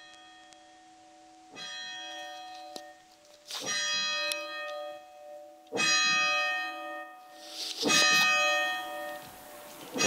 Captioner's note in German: Glockengeläut